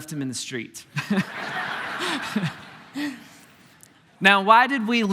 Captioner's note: congregation laughing